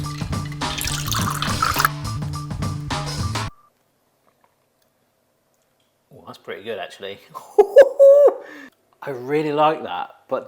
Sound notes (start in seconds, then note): 0.0 cocktail mixture trickling